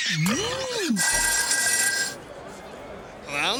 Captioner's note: telephone rings